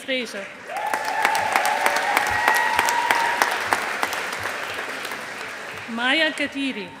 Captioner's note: audience applauding